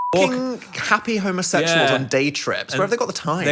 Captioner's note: beep